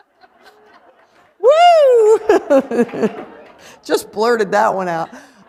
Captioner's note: laughter